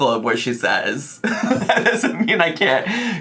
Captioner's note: laughs